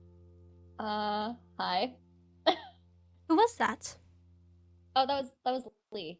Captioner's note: laughs